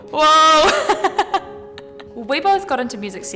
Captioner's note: laughs